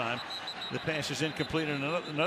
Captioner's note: whistle